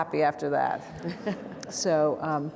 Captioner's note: audience laughing